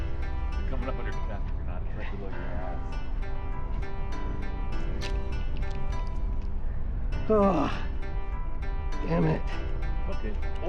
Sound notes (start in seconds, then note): 3.6 wind blowing